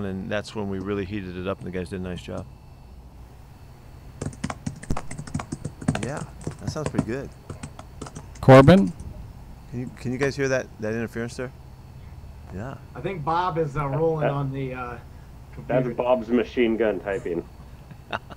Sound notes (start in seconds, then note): 4.2 drums on the table; 17.8 laughter